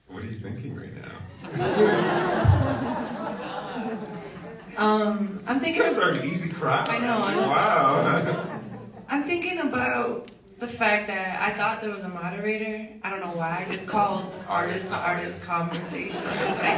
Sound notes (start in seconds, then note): 1.3 audience laughs